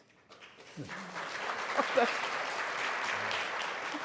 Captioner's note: applause